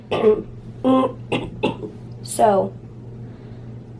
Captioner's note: clears throat